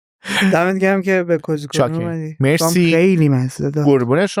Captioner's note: laughs